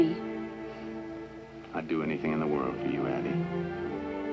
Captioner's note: sighs